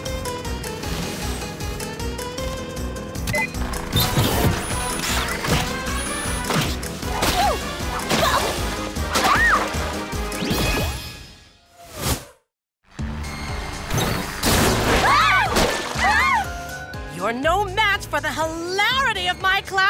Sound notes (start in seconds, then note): 13.0 all screaming